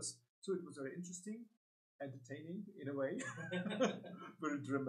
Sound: laughing; laughs

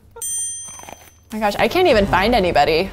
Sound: bites loudly

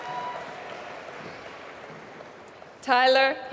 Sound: applause

